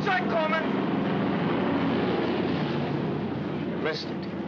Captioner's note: aircraft rumbles overhead